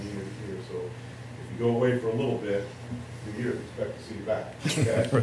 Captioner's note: laughter